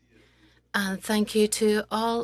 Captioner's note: speaking French